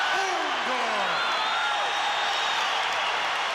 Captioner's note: crowd cheers